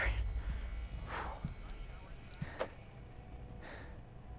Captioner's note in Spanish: Jadeando